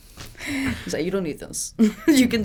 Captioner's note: laughs